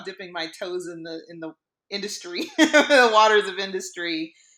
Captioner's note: laughs